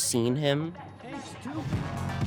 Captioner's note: muffled Voice